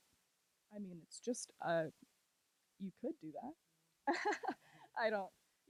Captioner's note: laughs